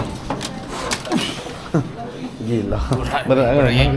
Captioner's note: laugh